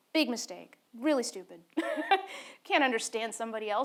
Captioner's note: laughs